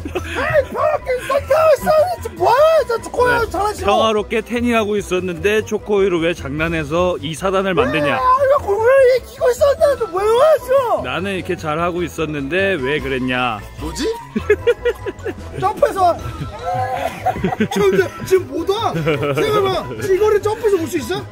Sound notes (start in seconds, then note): 8.3 very aggressive tone; 16.4 laughing too hard